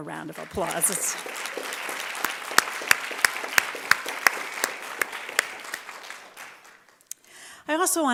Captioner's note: applause